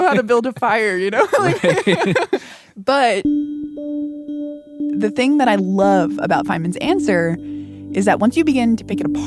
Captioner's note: laughs